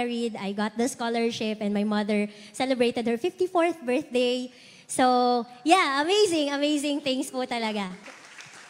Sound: applause

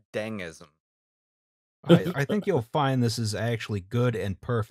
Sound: laughter

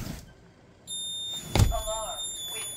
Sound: window opens; beeping pulsing from high to low

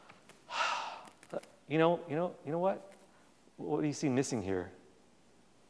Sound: sighs

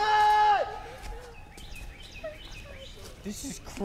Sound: Jack whimpers

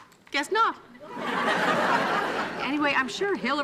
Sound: audience laughing

